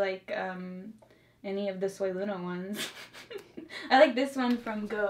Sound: laughs

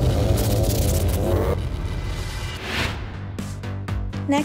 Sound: electricity buzzing; upbeat music

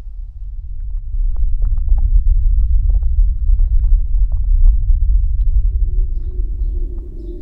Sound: constant low earthly rumbling

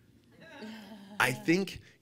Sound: audience laughing

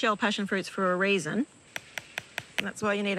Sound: hard tapping

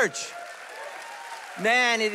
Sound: congregation whooping and applauding

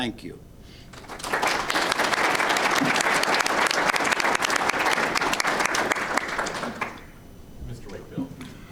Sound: audience applauding

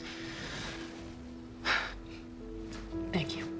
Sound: sighs

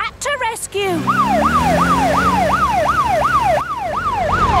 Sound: siren

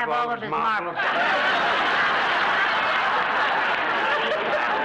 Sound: audience laughs

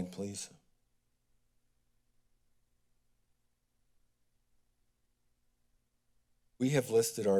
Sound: silence

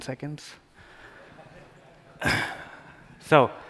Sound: laughter

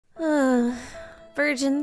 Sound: sigh

